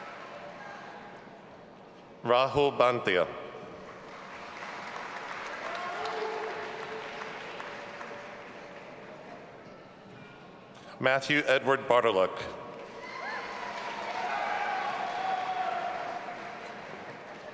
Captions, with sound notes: Rahul Banthia. (audience applauding) Matthew Edward Bartolac. (audience applauding and cheering)